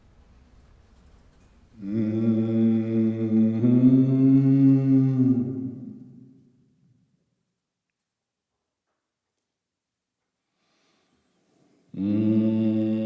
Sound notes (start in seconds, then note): 4.8 tonal Humming